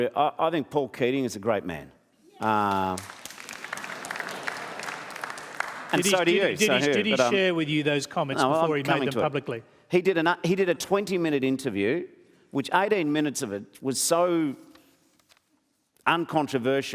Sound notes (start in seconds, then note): 2.4 applause